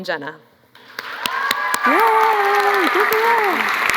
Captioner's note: applause